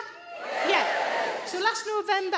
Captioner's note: audience cheers